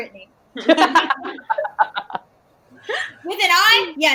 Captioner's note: all laugh